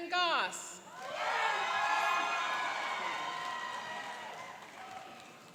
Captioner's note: cheering and applauding